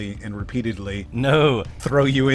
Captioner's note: laughs